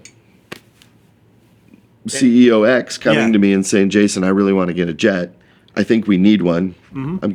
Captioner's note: laughing